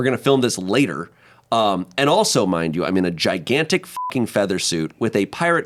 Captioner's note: beep